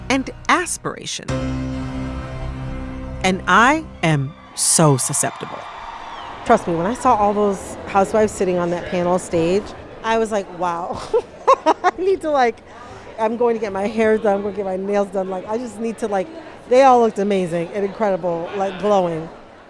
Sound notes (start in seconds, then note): 10.9 laughter